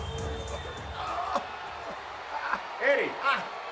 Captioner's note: crowd cheering; Guerrero grunting